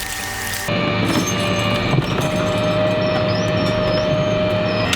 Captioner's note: machine operating